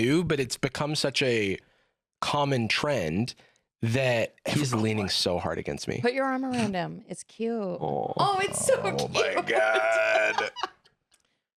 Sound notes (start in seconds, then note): 8.2 laughs